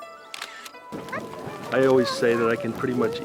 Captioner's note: fire burning